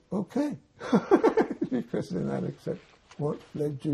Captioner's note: laughing